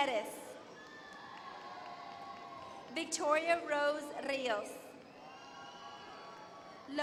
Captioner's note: applause